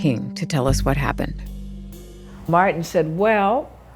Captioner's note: soundbite of archived recording